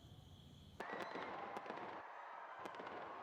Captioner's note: distant people screaming; distant guns firing